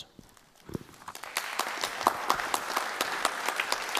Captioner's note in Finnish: Applause